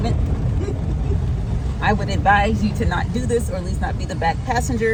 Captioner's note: woman laughing